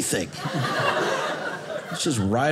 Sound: audience laughing

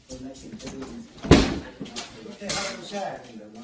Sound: crash

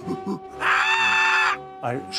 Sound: impersonates monkey grunts; screeches

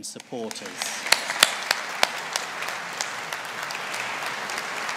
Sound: audience applauding

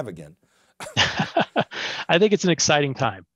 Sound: laughs

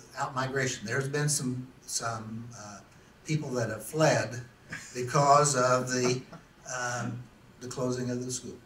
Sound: laughs

